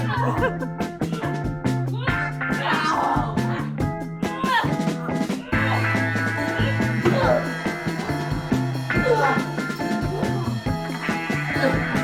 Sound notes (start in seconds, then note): 1.0 grunts and exclamations